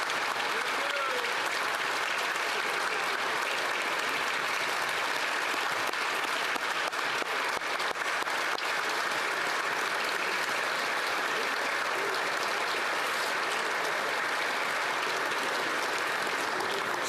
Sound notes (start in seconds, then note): 2.2 applause